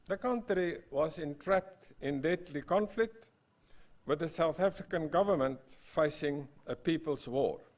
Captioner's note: none